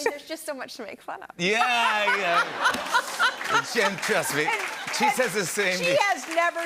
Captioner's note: laughter and applause